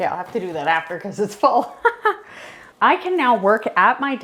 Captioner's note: chuckles